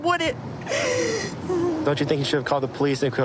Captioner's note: sobbing